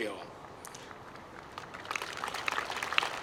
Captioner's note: applause